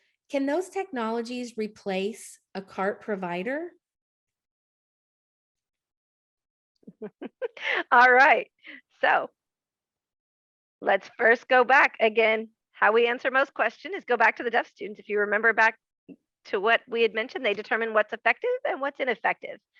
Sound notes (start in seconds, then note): 6.9 laughs